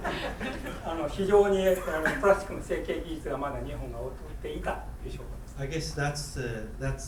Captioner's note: students laughing; speaking in foreign language